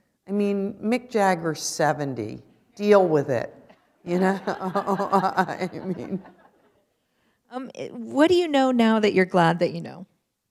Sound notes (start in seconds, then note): 4.2 laughter